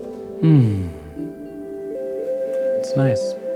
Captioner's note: sighs contentedly